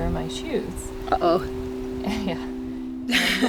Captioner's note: laughs